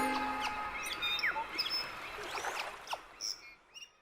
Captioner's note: birds chirping